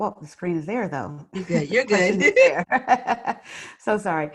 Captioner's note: laughter